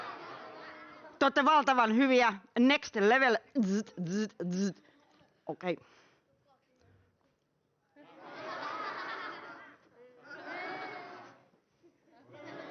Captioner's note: audience reacts with fake laughter and mockery